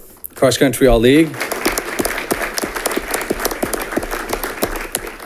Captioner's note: audience clapping